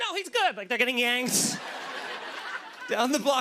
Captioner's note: laughter